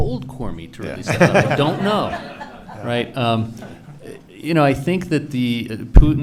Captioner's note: laughing